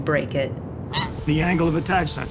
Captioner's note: goose honk